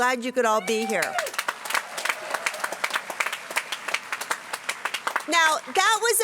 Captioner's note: applause